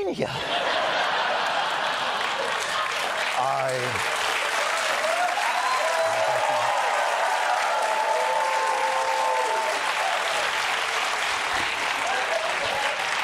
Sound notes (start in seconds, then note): 0.3 laughter; 4.1 applause; 6.6 cheering